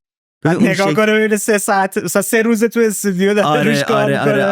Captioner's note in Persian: خنده